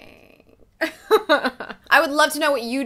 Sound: laughs

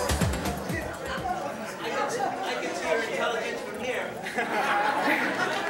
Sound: audience murmuring

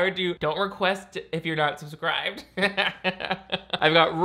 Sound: laughs

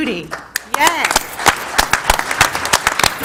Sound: applause

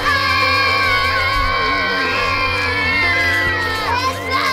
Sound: screaming

